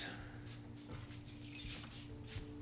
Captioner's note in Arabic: جلجل المفاتيح